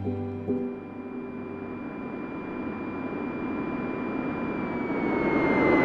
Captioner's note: speaking in foreign language; plane engine whirring